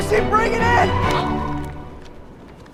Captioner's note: wind gusts